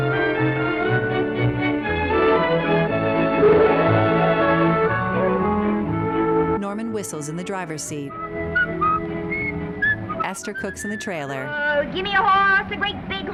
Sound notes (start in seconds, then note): 8.1 Norman whistling